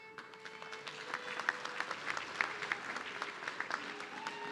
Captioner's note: audience clapping